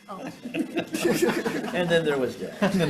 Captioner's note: senators laughing